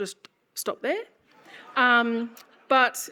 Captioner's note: audience laughs